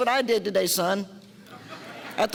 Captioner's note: audience laughter